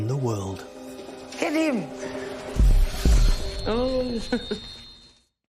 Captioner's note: groans and laughs